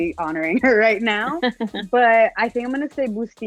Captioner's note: laughs